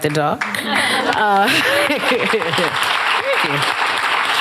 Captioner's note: applause